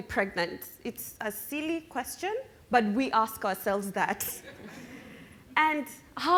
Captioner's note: chuckling